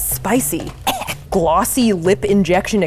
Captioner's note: coughs